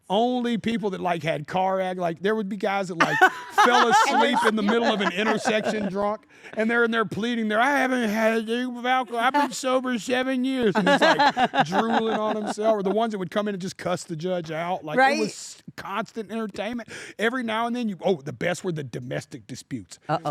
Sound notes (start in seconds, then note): 10.6 laugh